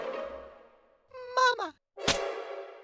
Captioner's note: doll cries